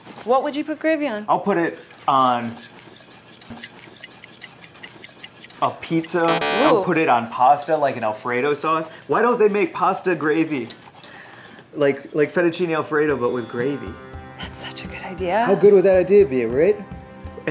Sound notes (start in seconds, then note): 3.4 stop watch ticking